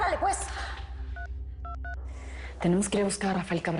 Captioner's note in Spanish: Sonido al marcar